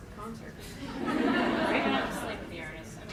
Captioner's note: laughter